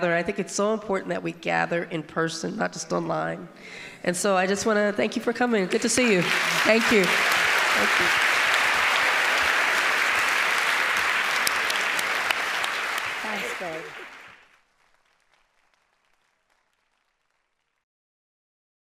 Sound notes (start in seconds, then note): 8.6 audience applauding